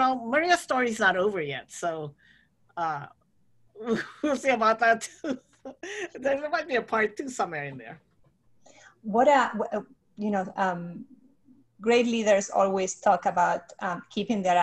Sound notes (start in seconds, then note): 2.0 laughs